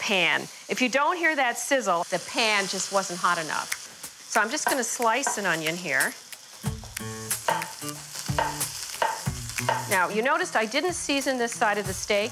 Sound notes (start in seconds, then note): 5.4 chopping on board; 6.6 music picks up